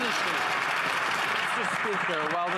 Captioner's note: some Applause